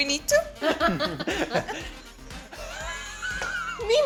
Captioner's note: laughing